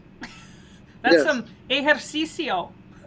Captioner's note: laughs